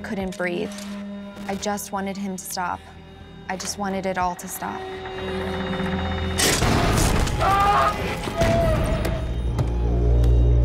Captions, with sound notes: I couldn't breathe. I just wanted him to stop. I just wanted it all to stop." [ominous music] [shouting]